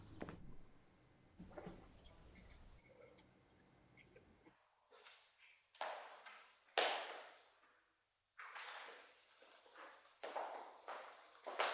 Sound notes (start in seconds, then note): none